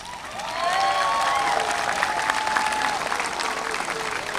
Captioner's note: audience applauding